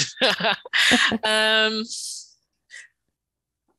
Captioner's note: laughs